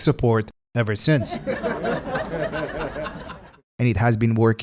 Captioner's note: laughter